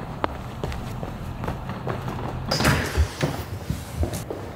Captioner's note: footsteps tapping